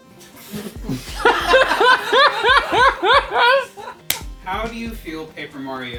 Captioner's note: laughter